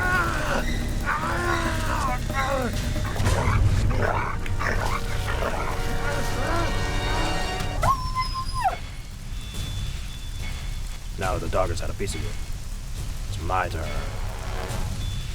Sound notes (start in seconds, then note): 8.0 dog whimpering